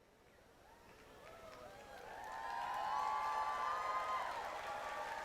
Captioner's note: audience cheering